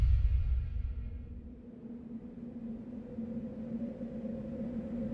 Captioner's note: wind howling